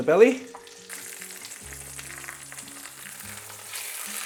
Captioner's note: sizzling sound